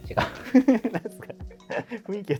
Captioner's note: laughing